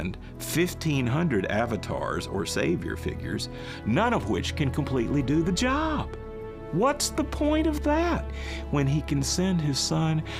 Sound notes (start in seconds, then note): none